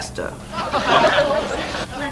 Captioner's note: audience laughs